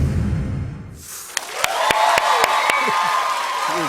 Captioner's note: cheers and applause